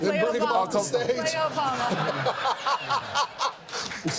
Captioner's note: laughter